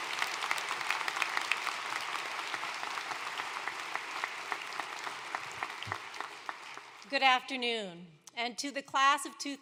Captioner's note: applause